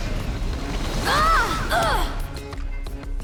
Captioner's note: grunting